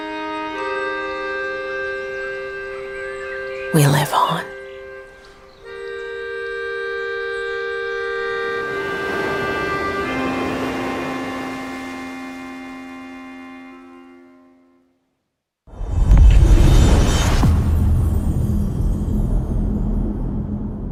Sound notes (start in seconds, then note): 0.1 gentle music playing; 15.9 dramatic sound